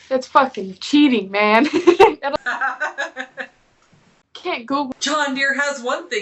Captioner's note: laughing